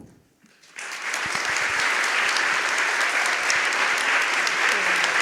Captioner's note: audience applauding